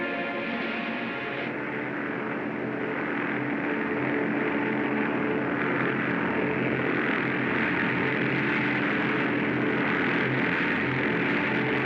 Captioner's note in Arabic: هدير سرب الطائرات